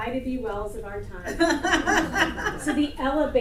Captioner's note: audience laughter